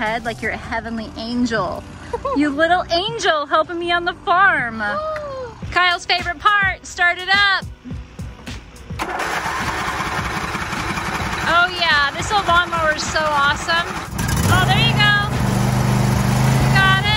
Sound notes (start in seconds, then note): 9.1 engine roaring; 15.6 engine roaring